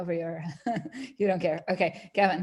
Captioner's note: laughs